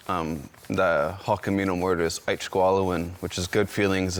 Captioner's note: speaks foreign language